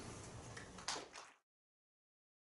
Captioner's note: crowd applauding